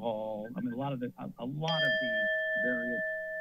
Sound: alarm sound

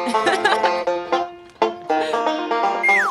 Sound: laughs

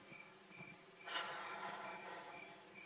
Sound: sighs

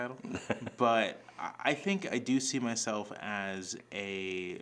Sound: chuckling

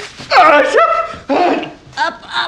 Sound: screaming

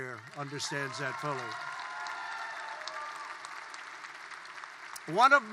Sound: applause

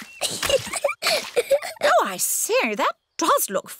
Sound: giggles

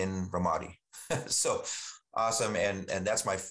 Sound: chuckles

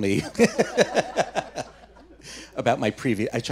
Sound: laughing

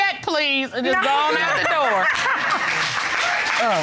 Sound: laughs

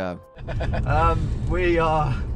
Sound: laughing

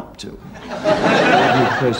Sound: audience laughs

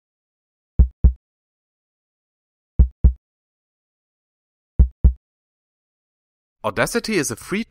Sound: heartbeat

